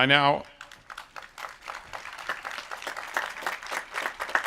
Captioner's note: audience applauds